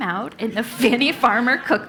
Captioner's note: laugh